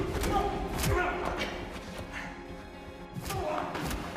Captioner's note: blows thudding; tense music